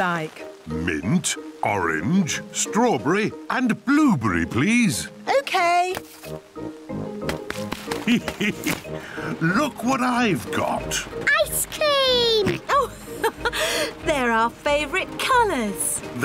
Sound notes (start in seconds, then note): 7.9 laughs; 12.3 laughs